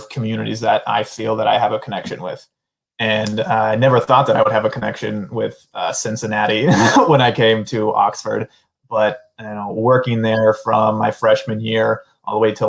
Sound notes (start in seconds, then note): 6.5 laughter